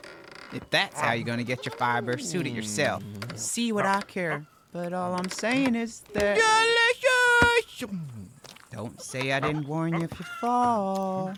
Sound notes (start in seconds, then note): 7.2 boards creaking